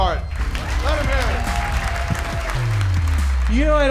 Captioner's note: audience clapping